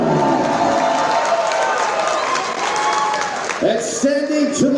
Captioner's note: crowd clapping and cheering